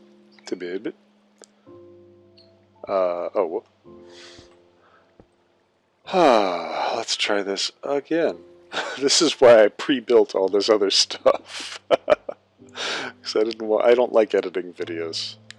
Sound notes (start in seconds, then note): 6.1 sigh; 8.7 laughing